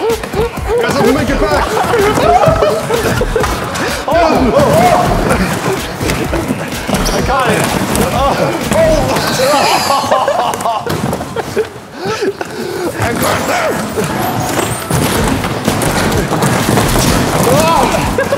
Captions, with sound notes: You guys have to make it back! [Laughing] Oh! [Laughing] I got it. [Laughing]